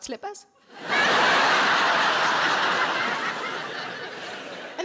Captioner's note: audience laughing